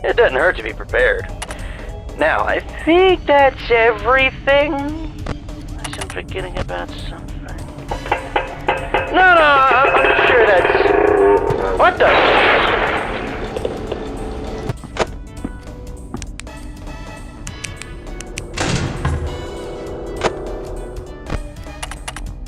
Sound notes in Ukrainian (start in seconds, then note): 8.0 стук стук